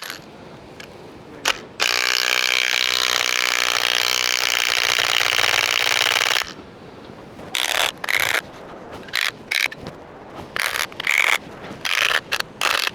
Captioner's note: drilling